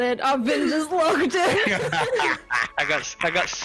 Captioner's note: laughs